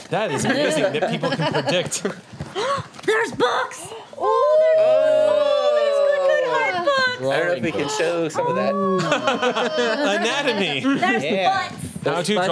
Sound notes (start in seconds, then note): 4.7 overlapping chatter